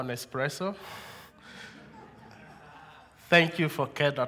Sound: laughter

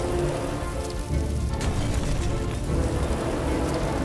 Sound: wheels screech

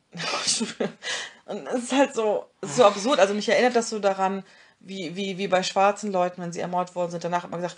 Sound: both laugh

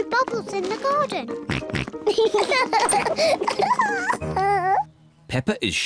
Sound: oinks; both oink and laugh

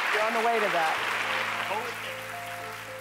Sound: applause

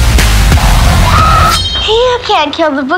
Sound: scream

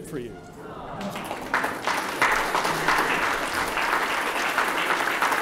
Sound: applause

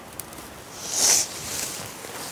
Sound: sniffling

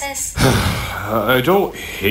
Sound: sigh

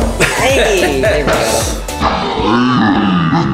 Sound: laughing

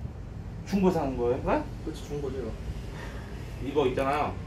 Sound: sigh

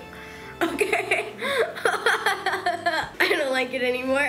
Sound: laughing

